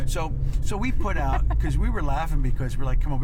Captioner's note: laughs